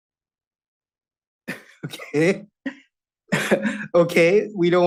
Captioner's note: chuckles